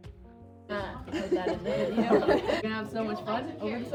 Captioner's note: laughs